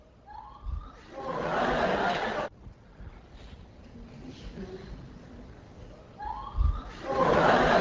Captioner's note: class laughs with relief